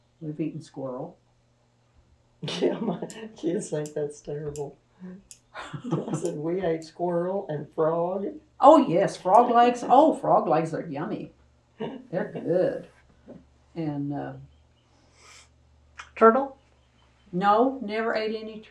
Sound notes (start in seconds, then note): 5.6 laughs